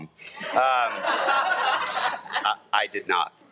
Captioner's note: everyone laughing